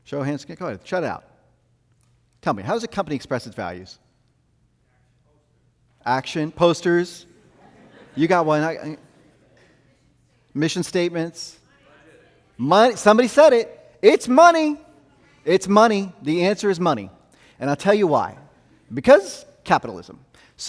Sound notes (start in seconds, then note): 7.3 audience laughing